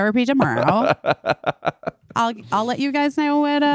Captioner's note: laughing